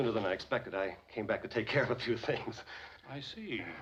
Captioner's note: chuckling